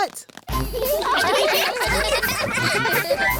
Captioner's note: laughter